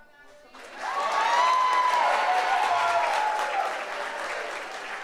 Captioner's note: audience applauds